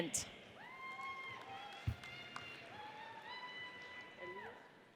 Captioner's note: audience cheers